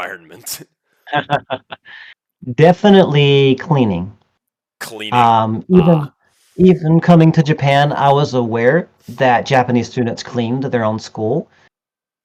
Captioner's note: laughs